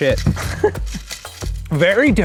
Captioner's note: laughs